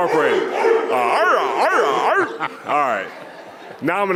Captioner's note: barking